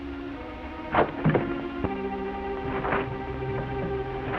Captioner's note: grate clatters